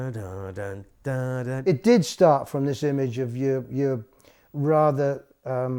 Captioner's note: humming